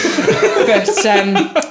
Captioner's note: laughing